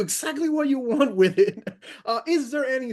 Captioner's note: laughs